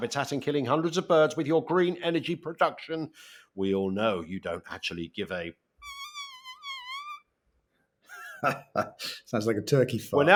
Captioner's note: pfffft